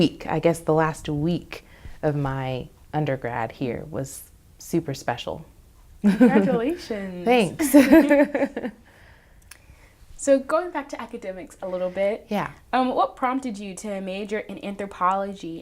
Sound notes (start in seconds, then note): 6.0 laughs; 7.5 both laugh